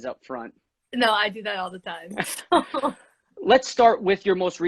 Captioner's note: laughs